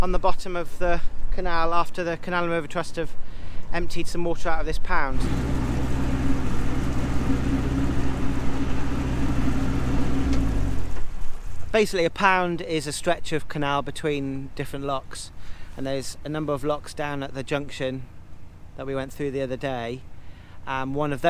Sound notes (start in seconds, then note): 5.1 engine noise